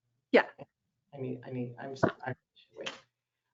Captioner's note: speaks faintly